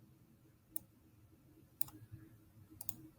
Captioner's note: mouse clicks